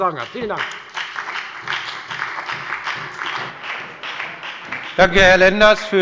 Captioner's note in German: Beifall bei der FDP und bei Abgeordneten der SPD